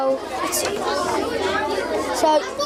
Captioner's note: students chattering